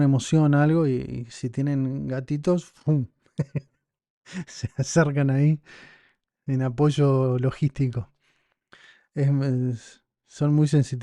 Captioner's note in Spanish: risas